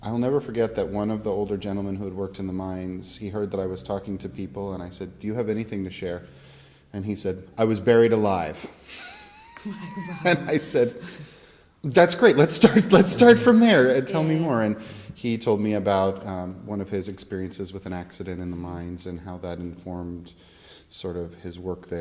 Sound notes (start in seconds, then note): 8.9 laughs